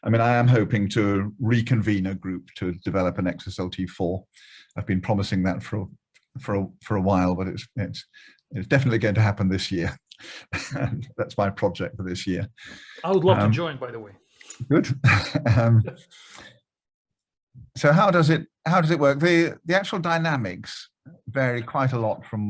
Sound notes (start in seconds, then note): 10.4 laughs; 15.0 laughing loudly